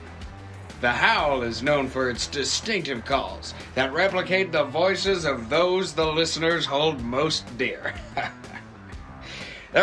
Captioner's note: chuckles